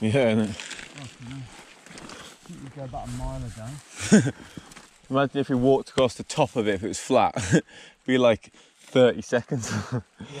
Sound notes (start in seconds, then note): 4.0 laughs